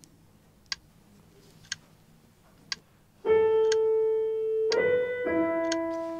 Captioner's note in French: tic-tac d'horloge